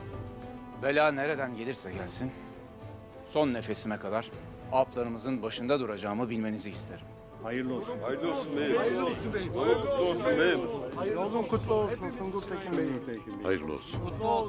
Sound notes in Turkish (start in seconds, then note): 7.2 Hep bir ağızdan